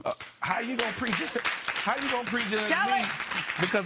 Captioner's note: applause